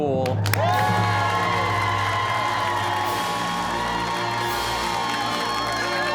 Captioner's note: cheers and applause